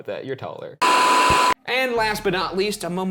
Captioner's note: static hissing